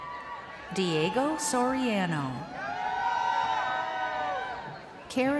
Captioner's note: crowd cheering